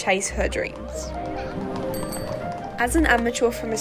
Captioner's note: bicycle bell rings